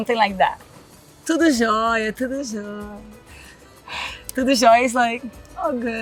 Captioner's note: speaks Portuguese